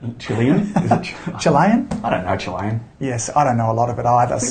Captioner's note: laughs